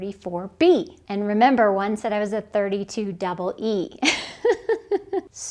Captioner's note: laughs